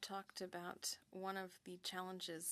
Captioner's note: speaking French